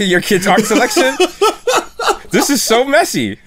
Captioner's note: laughter